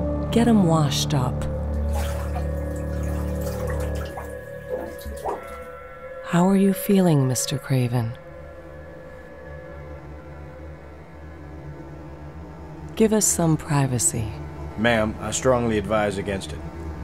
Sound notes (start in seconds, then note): 1.4 water dripping